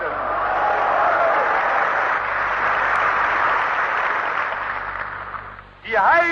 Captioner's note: applause